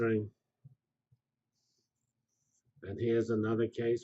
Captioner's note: pause